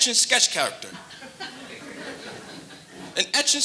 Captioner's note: audience lightly laughing